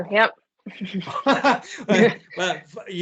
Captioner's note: laughter